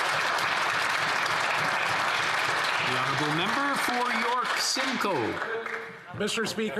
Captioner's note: applause